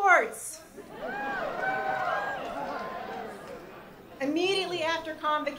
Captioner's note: crowd cheers